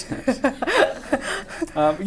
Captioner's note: laughs